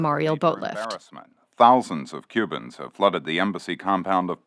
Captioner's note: archival news audio; archival news audio